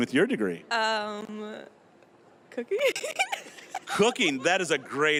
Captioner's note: laughing